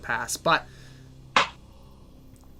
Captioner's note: none